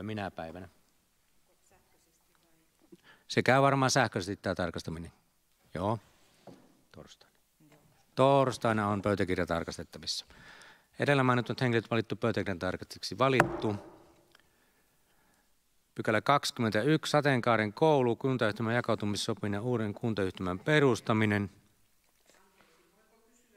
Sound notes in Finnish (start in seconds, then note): 13.4 Nuijan kopautus